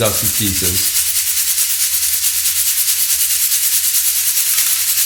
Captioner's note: nuts rattling